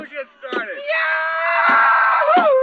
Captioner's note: kid yelling cheerfully